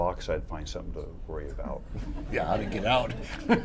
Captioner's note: laughter